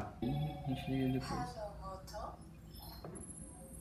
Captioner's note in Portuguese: barulhos do celular